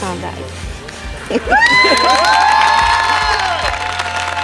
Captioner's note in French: acclamations et rires